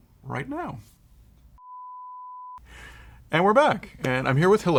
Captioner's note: tone